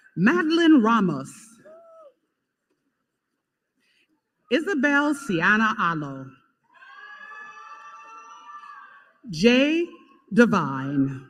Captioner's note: applause